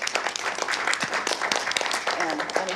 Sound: applause

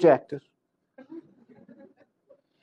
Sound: laughs

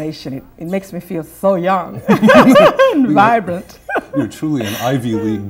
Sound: laughter

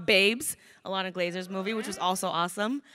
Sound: crowd cheering

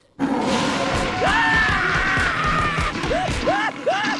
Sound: screaming

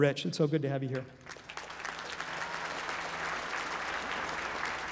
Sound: applause

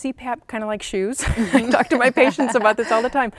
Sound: laughs

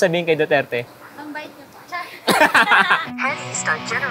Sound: giggling shyly

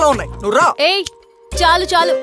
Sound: snaps finger

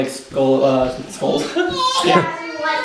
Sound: laughing

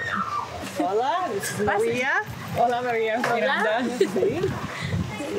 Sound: speaking foreign language

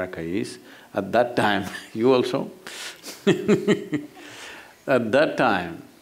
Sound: laughs

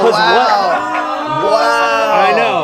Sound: audience jeers

